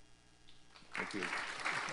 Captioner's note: applause